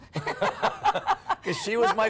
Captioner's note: laughter